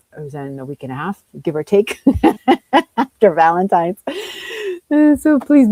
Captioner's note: laughs